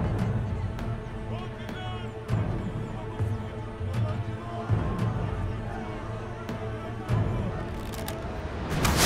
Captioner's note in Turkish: Kalabalık bağrışma sesleri